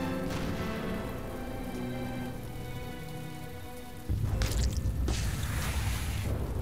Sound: thunderclap sound

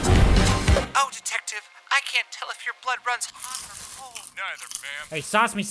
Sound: TV playing in the background

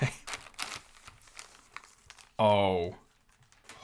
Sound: wrapping crackles

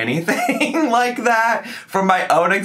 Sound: laughing

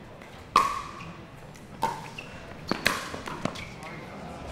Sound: ball bouncing

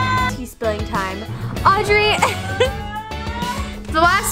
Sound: laughs

